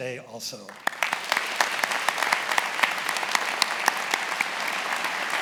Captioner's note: attendees applauding